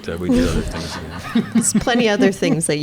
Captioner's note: audience laughing